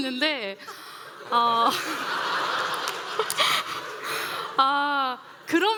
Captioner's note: laughter